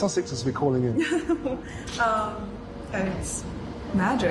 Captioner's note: Meghan laughs